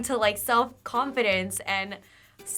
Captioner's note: none